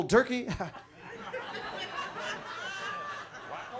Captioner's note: chuckles; audience laughs